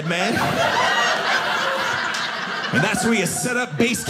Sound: audience laughing

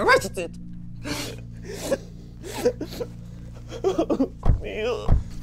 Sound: sobbing

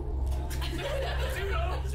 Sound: laughs

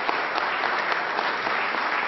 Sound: applause

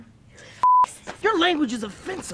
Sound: beep

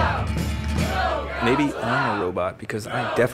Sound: crowd

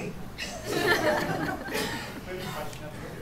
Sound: laughter

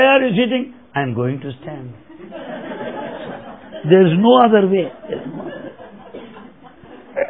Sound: laughter; laughter

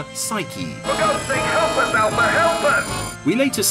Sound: man yelling

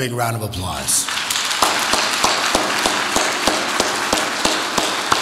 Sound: audience applauds

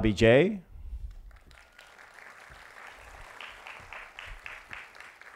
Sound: applause

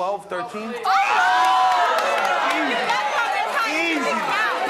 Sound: audience cheering

